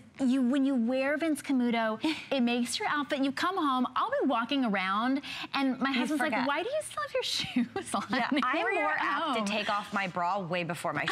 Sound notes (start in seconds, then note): 7.6 laughter